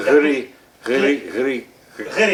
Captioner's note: speaking foreign language